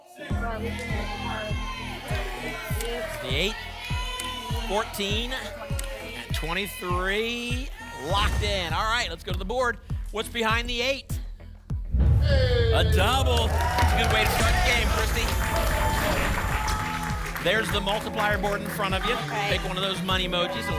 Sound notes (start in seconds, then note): 0.0 audience shouting numbers; 11.8 rumbling sounds; 15.9 whoosh; 16.4 boom